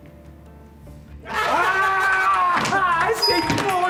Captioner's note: screams